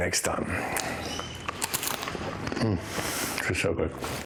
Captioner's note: crunching